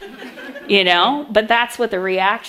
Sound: audience laughs

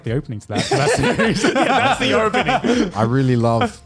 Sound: laughs

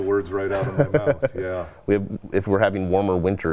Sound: laughs

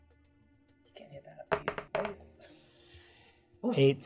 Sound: die rolling

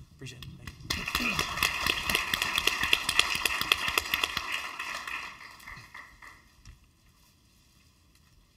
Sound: applause

